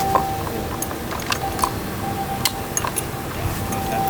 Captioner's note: metal clinking